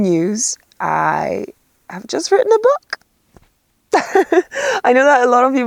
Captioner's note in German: lacht